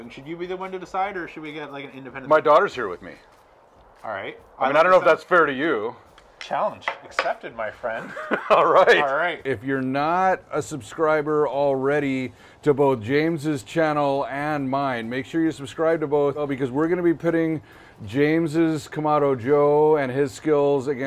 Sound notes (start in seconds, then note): 8.0 laughs